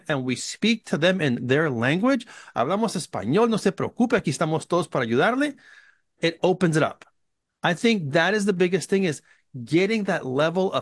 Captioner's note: spanish